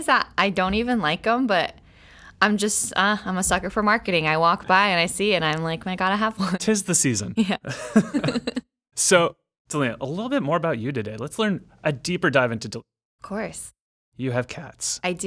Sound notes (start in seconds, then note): 7.6 laughing